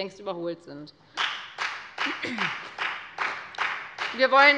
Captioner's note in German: Beifall bei der FDP